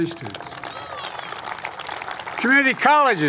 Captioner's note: applause